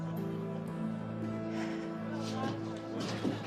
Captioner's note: exhales